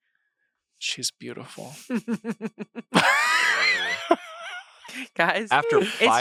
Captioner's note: laugh